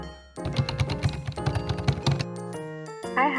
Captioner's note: types furiously